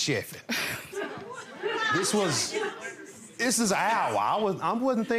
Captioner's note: laughs